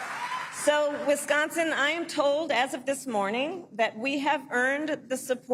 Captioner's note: applause